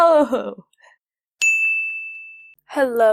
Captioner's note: ding